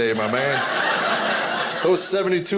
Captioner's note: audience laughing